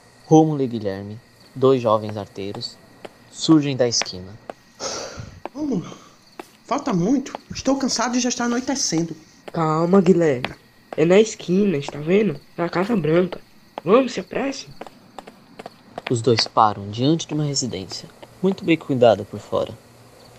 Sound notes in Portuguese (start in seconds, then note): 4.0 Passos na calçada; 6.0 ofegante; 14.9 Passos de corrida